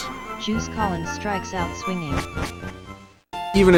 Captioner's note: text-to-speech